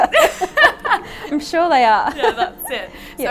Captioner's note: both chuckling